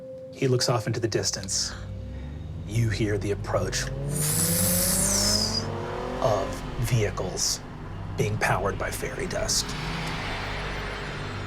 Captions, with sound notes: - He looks off into the distance. You hear the approach-- (engine revving) Of vehicles being powered by fairy dust.